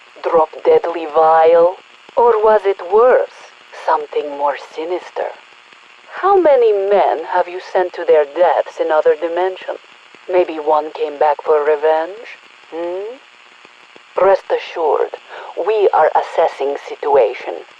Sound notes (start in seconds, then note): none